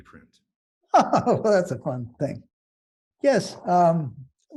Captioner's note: laughing